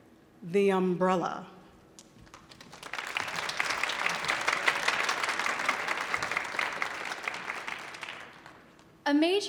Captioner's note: audience applauding